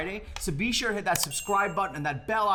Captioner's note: bell rings